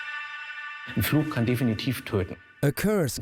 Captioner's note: speaks German